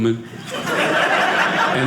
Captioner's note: audience laughing